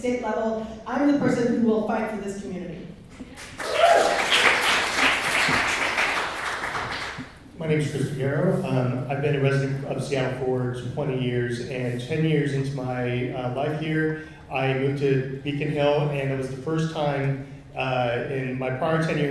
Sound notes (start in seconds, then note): 3.3 clapping and whooing